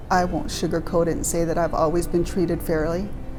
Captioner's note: voiceover